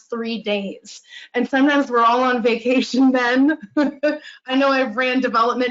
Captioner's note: laughs